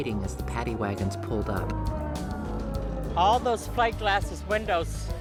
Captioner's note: police Sirens